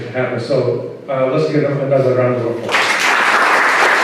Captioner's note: applause